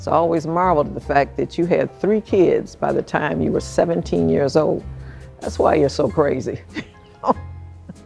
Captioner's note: laughs